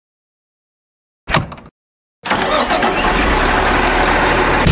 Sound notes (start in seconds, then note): 1.3 door thuds; 2.3 engine revs